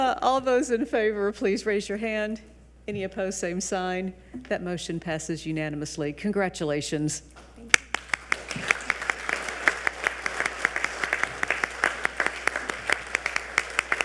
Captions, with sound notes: All those in favor, please raise your hand. Any opposed? Same sign. That motion passes unanimously. Congratulations. (audience applauding)